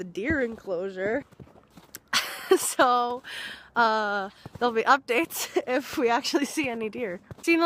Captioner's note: laughs